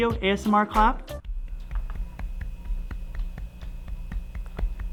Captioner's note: soft clapping